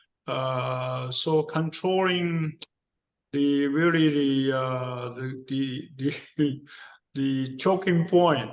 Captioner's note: laugh